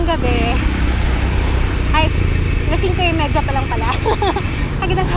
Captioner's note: laughs